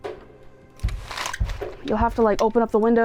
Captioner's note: blinds clicking